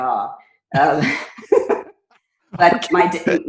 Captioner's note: laughing